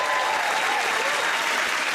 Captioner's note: cheers and applause